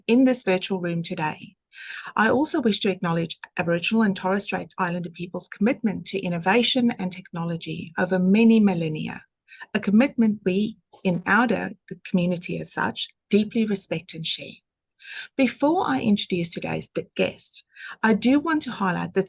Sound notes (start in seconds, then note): none